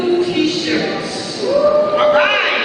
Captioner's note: cheering